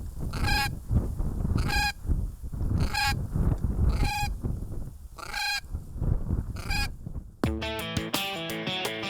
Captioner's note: bird calls